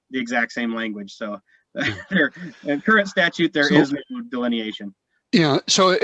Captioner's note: laughs